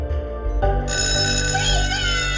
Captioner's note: bell rings